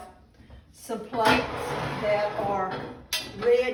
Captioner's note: plates clanging